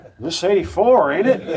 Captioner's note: spectators laugh